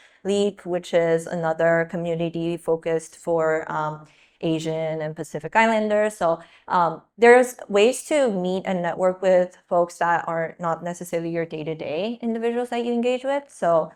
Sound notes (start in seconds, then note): none